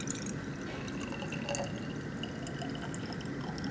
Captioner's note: liquid pours